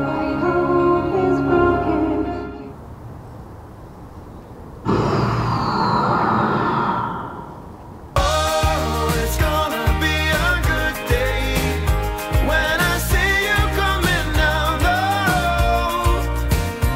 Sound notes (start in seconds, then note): 4.8 gundam activation sounds